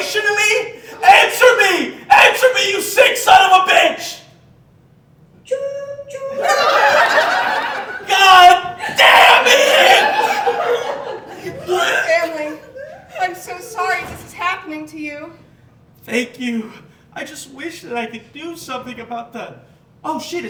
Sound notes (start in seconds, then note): 6.3 laughter